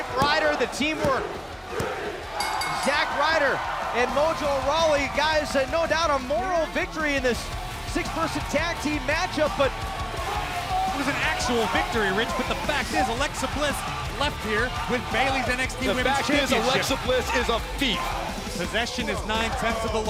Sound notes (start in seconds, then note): 2.3 bell